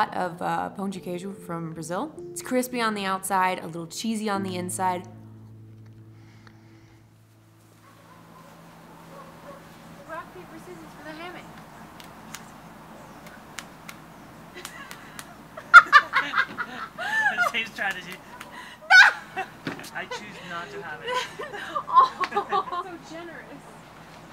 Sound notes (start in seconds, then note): 15.4 laughs